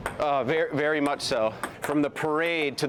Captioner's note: ball taps on table